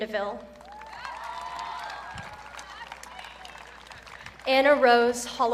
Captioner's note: audience cheering